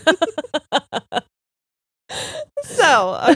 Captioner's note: both laughing